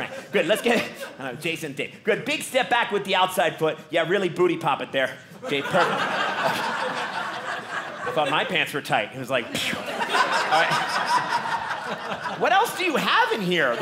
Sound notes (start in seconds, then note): 11.1 audience laughing